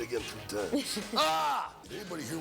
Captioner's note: chuckling